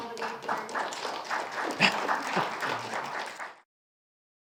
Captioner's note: students applauding